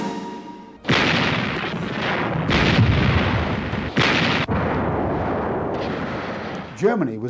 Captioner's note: explosions